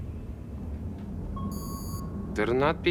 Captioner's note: alarm